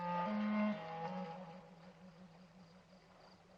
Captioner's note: water rippling